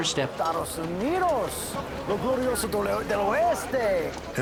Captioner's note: speaking spanish